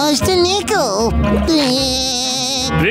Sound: laughing

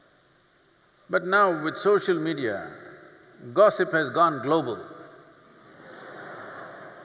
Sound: laughter

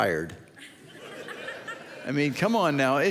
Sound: audience laughs

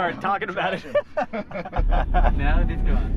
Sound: laughing

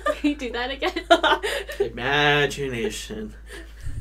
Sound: women laugh

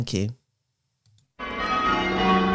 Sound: bells ringing call changes

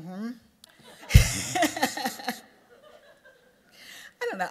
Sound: laughter

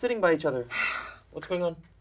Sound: Luigi sighs

